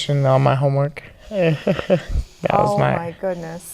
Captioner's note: laughing